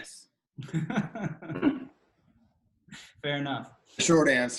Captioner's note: laughs